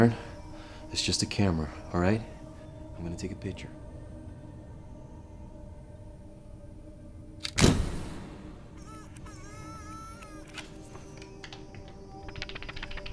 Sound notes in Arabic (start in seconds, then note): 8.8 تومض الكاميرا; 10.3 موسيقى تلوح في الأفق